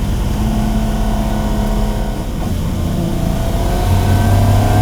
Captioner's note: car revving continues